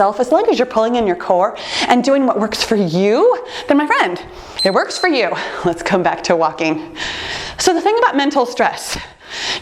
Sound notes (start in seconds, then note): 3.5 timer beeps